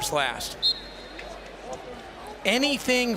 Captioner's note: whistle blows